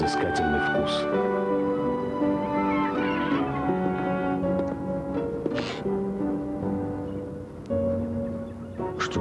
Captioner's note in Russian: скрип